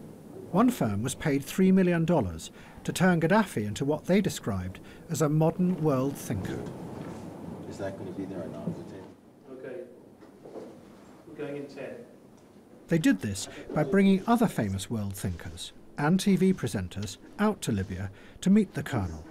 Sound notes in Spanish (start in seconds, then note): 7.2 público murmulla